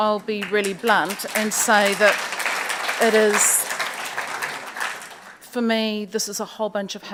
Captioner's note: audience applauds